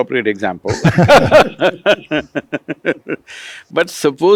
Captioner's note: laughter